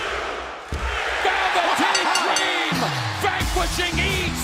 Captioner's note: bell ringing